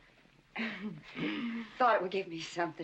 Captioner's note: hemming & hawing